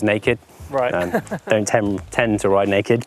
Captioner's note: laughing